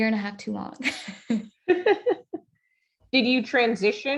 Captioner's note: laughs